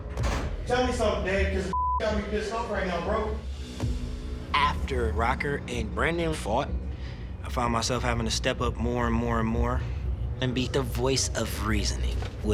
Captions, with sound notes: - Tell me somethin, Dave, caus this got me (beep) pissed off right now, bro. - After Rocker and Brandon fought, I found myself havin to step up more and more and more and be the voice of reasoning,